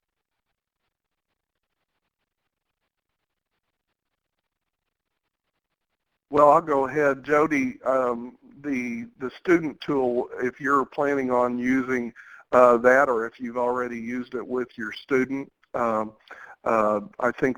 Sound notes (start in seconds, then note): 6.6 voiceover